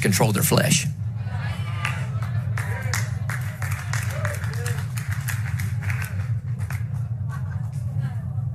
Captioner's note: applause